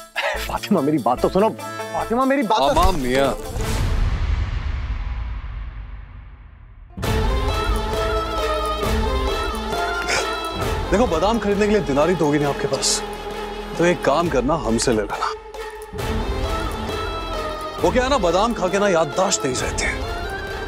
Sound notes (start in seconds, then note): 3.7 tense music playing; 7.1 dramatic music playing; 10.2 giggling